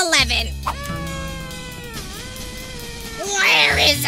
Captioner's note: quietly screaming